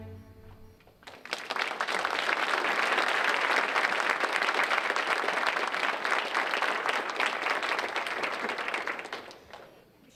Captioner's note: applause